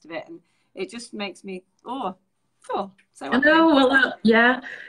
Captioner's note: shivers